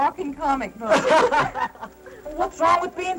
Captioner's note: laughing